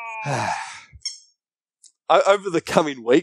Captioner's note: Scruff screams; sighs